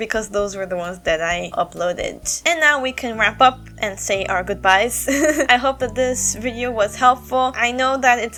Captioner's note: chuckle